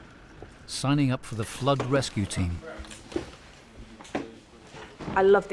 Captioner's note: people chattering